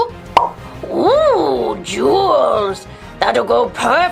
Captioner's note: popping